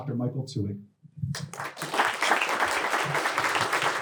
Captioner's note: applause